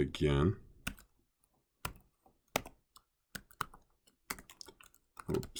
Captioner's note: typing